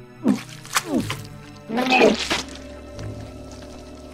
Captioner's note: alien spitting